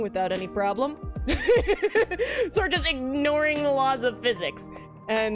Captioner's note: laughs